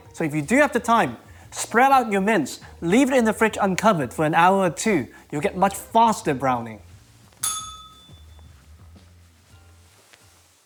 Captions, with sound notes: So if you do have the time, spread out your mince, leave it in the fridge uncovered for an hour or two. You'll get much faster browning. [bell rings]